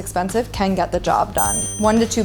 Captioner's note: ding